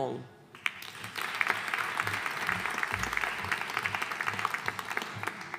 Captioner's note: audience applauding